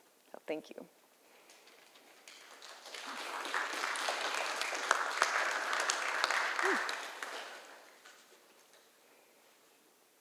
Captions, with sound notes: So thank you. [ Applause ]